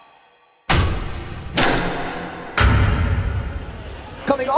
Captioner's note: dramatic sound effects